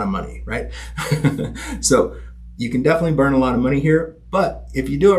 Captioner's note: chuckling